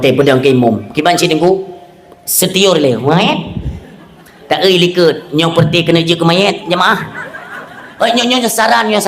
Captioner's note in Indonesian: tertawa